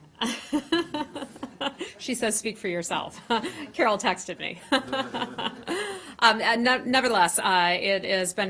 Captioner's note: laughter